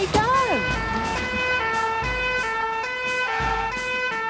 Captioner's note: siren sounding